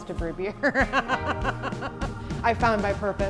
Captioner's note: laughs